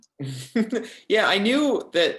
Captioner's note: chuckles